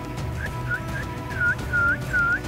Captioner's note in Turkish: Islık çalıyor